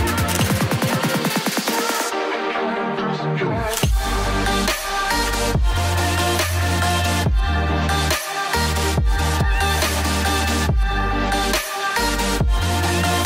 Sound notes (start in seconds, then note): 0.2 camera beeps and clicks